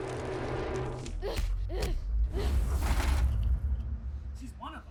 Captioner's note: intense music; Olive grunting